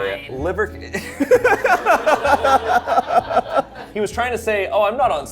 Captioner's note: all laughing